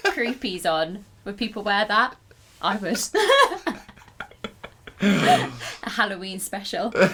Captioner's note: laughter